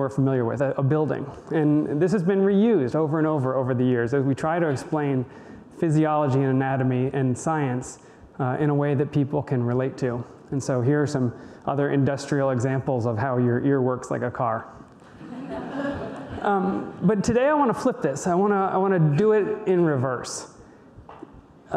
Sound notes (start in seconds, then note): 15.1 audience laughter